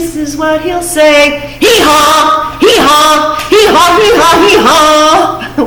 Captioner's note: loud voice